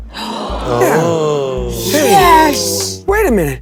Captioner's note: audience and players gasping